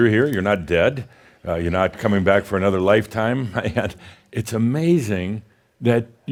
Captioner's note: chuckles